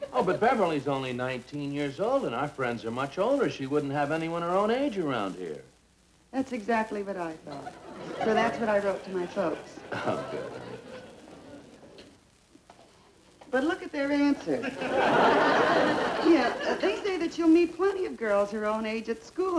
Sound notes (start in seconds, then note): 9.6 audience Laughing; 12.5 footsteps; 14.5 audience Laughing